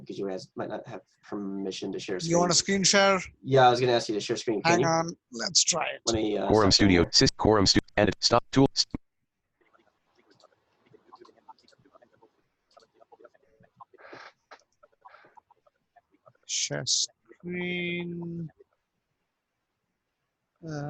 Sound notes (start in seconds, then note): 6.7 computer Voice; 11.4 silence